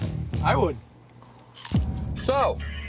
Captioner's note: pizza crunches